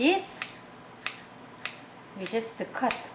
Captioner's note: scissors clicking